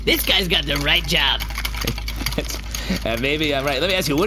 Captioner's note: laughing